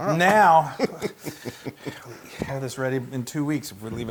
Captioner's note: laugh